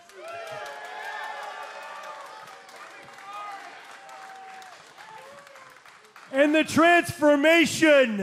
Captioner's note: cheers and applause